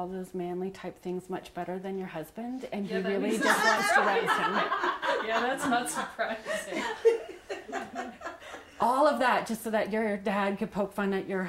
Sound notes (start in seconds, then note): 3.0 laughter